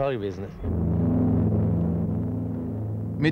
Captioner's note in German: Motorengeräusch